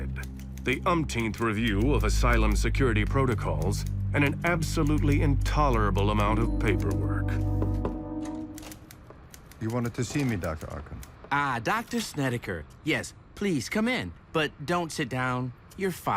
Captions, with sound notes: the umpteenth review of asylum security protocols, and an absolutely intolerable amount of paperwork. [knocking] - You wanted to see me, Dr. Arkham? - Ah, Dr. Snedeker, yes, please come in. But don't sit down. You're fired.